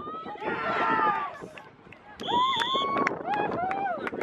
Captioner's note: cheering